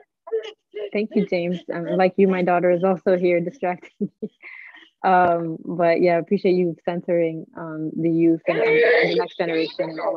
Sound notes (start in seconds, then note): 4.9 chuckling